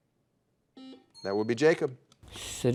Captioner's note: buzzer dings